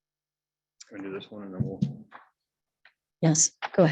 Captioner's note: faintly speaking